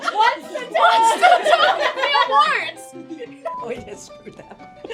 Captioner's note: laughter